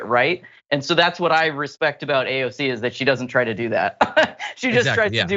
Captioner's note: laugh